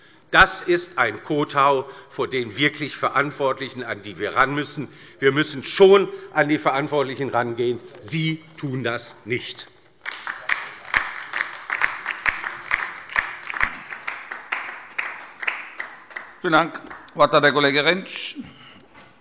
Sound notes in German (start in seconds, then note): 10.0 Beifall bei der LINKEN